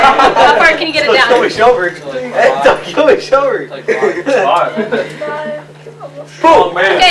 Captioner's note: chatter